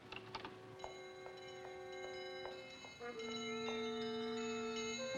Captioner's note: woman's footsteps; ominous music